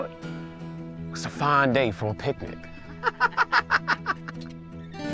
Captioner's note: laughs